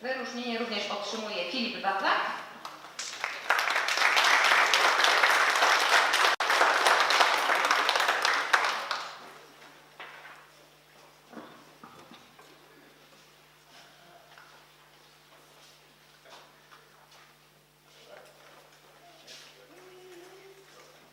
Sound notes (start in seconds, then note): 2.6 oklaski